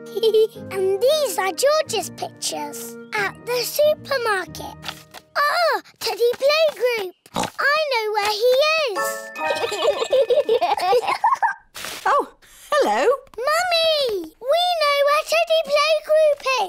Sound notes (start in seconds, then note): 0.0 giggles; 7.3 oinks; 9.5 both giggle